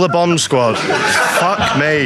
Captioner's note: audience laughs